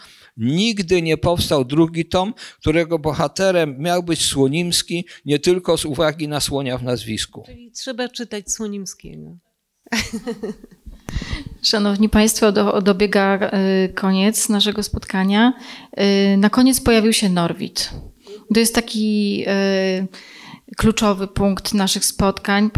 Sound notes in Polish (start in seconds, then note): 9.9 śmiech